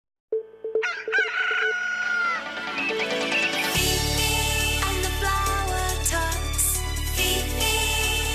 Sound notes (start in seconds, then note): 0.8 rooster Crows